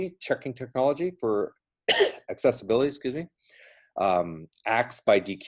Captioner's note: coughs